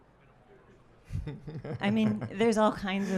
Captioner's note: laughing